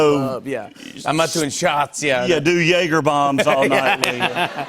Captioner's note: laughter